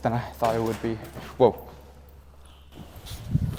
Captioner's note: floor cracks